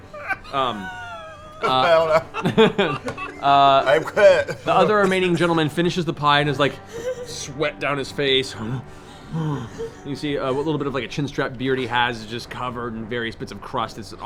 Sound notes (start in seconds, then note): 0.0 distressed noises; 8.8 panting